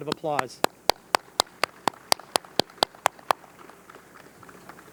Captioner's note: audience clapping